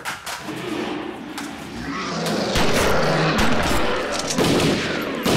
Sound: growling; gun blasting

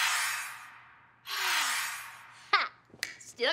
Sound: sighs

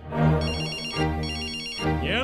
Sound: cell phone ringing

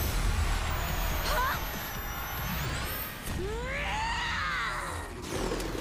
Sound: shrieking

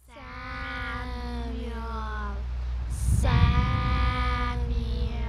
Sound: spooky voices chanting 'Samuel'

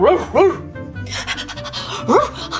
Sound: panting and barking

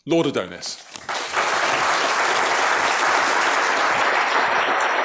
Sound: applause

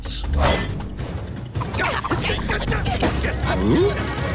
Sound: grunting

